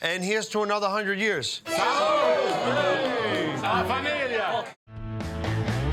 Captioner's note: crowd